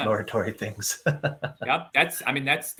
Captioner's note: laughing